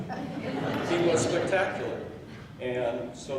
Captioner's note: laughing